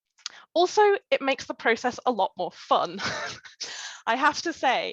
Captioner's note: laughs